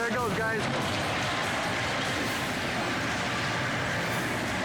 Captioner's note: house crumbling